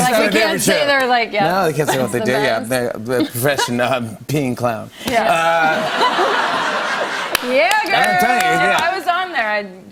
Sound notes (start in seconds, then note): 5.6 laughter